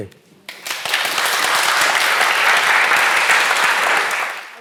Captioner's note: audience applauds